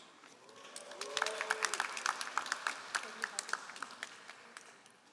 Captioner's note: all applauding